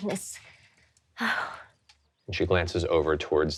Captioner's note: sighs